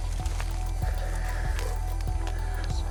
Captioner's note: Christian's colleague panting